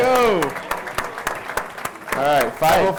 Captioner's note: applause